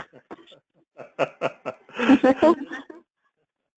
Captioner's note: laugh